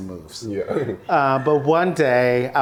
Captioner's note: laughs